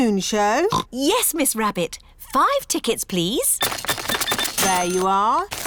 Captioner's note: oinks